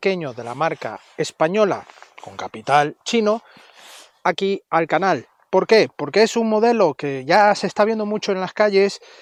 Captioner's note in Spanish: resoplido